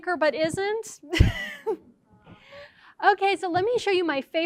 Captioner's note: laughs